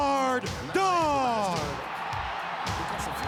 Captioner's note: crowd cheers